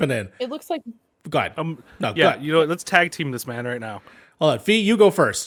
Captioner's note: laugh